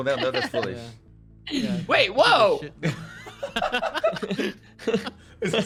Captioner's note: laughs